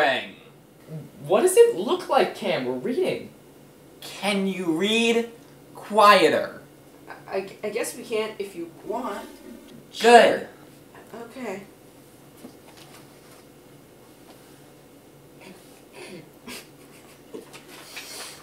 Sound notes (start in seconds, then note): 12.0 silence; 16.4 both start laughing